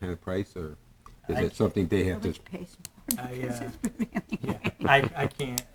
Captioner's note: laughing